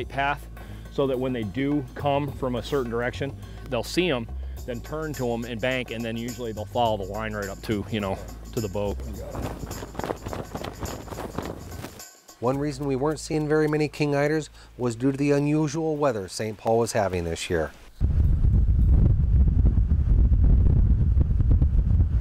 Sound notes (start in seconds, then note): 9.2 flapping; 17.8 wind blowing